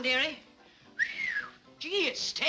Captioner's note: whistles